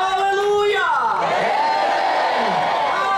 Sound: audience responds shouting: amen!

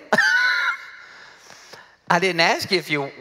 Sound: laughs

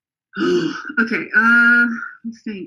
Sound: exhales

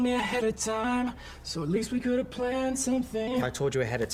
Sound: in robotic voice

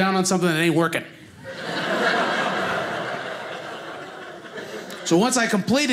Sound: audience laughing

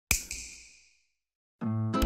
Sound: snap

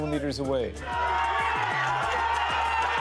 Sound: cheers and Applause

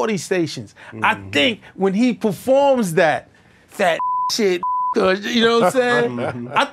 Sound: beep

